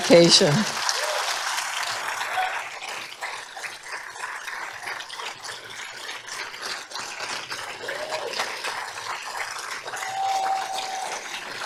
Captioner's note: applause